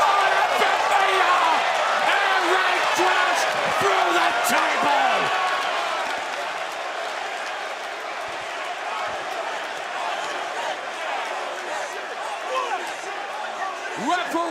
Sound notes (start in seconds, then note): 9.1 cheers and applause; 11.4 fans chanting